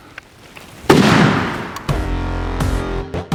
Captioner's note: gun roars; upbeat rock music